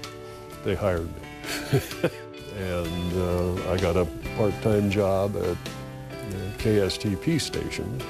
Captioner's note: laughs